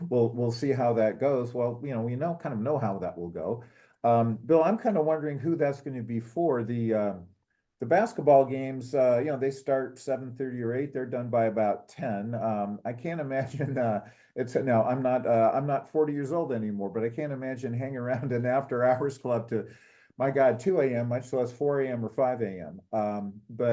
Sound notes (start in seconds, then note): 13.5 laugh